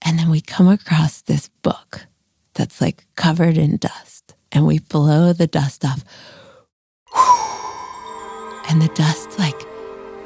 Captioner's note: blows